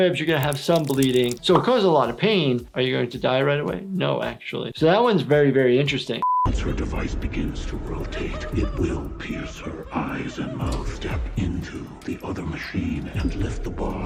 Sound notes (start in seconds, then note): 6.5 voiceover